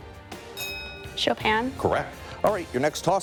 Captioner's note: bell dings